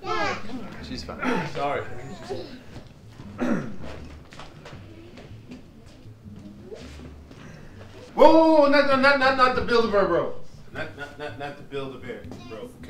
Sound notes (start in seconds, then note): 3.2 clears his throat